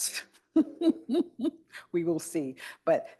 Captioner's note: laughs